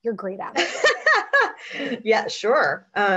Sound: laughs

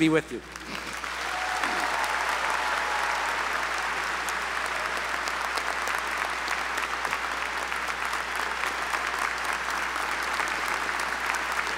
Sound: applause

